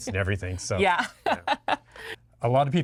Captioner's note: laughing